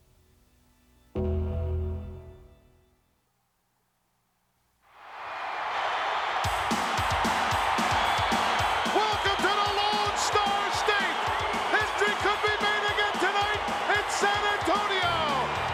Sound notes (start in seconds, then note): 5.0 crowd cheering; 6.5 upbeat music